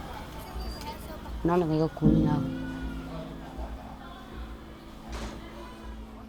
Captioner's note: speaking in foreign language